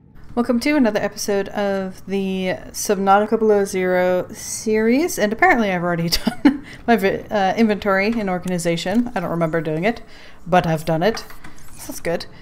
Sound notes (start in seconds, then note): 6.1 laughs